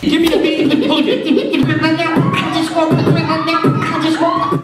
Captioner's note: beatboxing